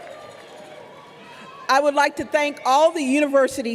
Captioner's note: applause